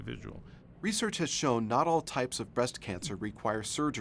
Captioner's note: voiceover